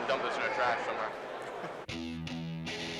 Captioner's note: rock music; laughs